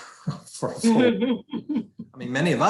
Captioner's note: chuckling